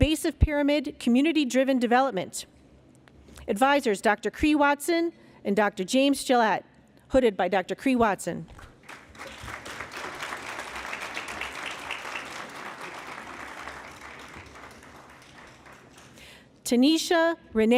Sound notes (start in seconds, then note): 8.5 applause